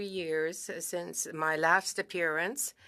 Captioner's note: speaking French